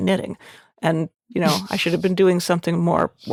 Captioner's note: chuckling